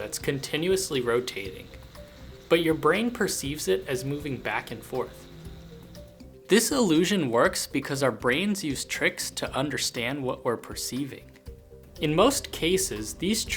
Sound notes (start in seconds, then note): none